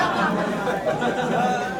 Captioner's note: laughs